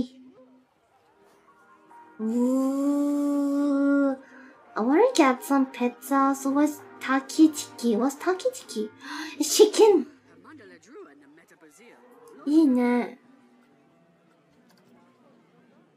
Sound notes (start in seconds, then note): 9.0 gasp